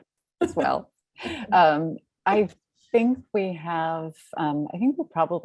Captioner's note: chuckling